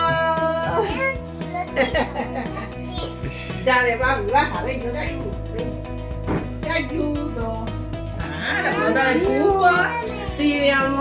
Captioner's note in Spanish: risas